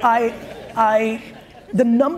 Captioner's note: audience laughs